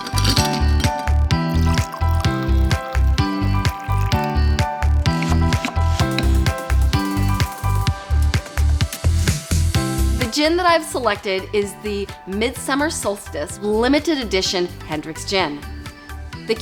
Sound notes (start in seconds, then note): 0.0 ice clinks; 1.4 cocktail splashes